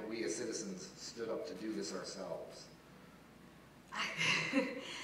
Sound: laugh

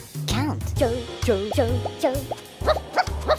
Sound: pigeons yell

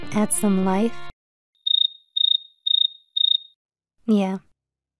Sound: crickets

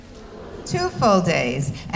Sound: mixed audience response

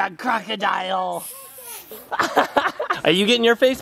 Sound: blows air; dad laughs

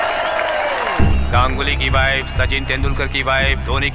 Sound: whistling

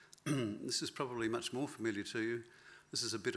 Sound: clears throat

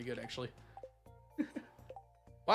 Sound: chuckles

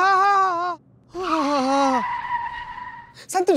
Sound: exclaiming

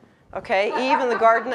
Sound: audience laughs

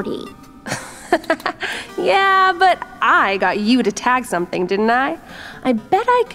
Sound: laughs

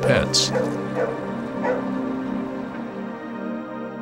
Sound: dog barking

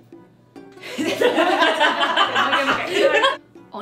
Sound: laugh

